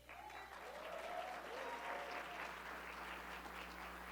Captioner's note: audience clapping